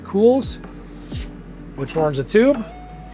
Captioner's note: nori roll whooshing